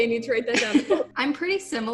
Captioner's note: chuckles